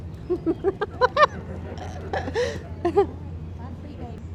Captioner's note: laughing